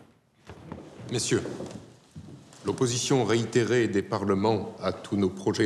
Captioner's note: men speaking in French